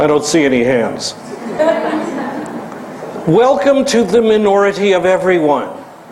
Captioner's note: laugh